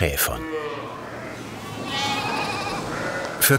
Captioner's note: bleating